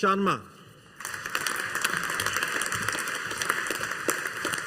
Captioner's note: audience applauding